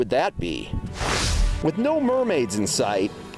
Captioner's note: swooshing